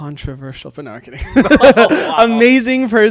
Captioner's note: both chuckling